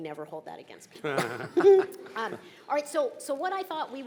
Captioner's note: chuckling